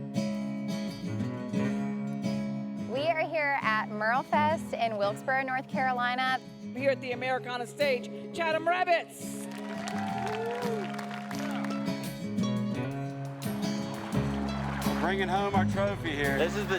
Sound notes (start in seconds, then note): 0.2 gentle bluegrass music; 9.3 crowd cheers and applauds; 11.1 gentle bluegrass music; 13.3 water gurgling